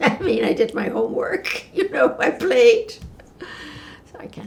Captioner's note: laughing